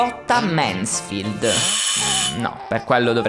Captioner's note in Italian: suono campanello